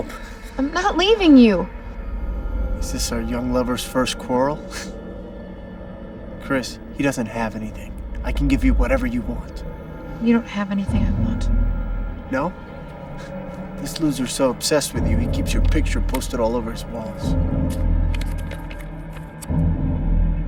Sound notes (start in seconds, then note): 4.8 chuckles